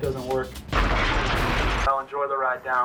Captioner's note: explosion blasting